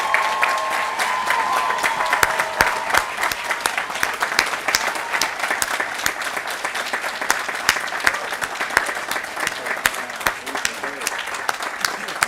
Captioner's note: applause & Cheering